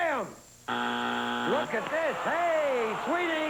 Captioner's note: buzzer